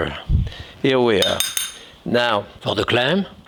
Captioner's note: spoon clanging